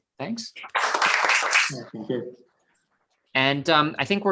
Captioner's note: applause